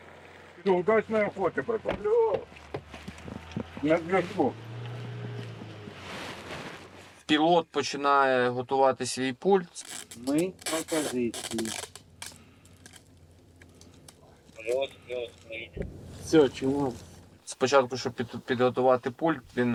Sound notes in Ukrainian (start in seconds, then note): 9.7 у рацію; 14.6 з рації